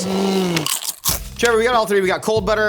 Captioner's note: crunching